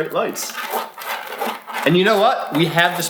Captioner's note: toy scraping